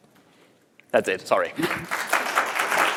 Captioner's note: applause